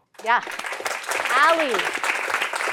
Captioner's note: applause